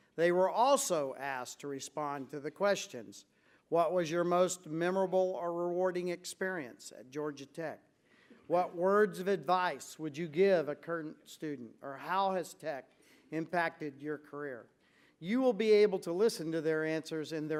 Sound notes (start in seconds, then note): none